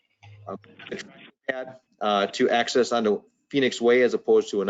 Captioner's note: microphone breaks up